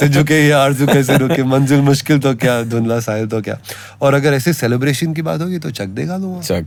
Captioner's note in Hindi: हंसी